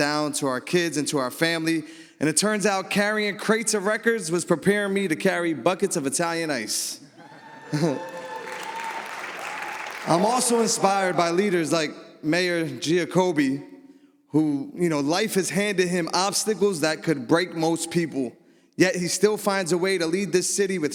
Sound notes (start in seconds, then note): 7.3 audience applauds